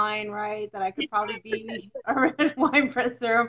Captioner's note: laughs